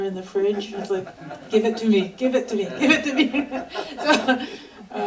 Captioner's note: laughter